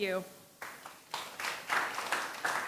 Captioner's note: applause